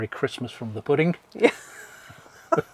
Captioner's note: laughs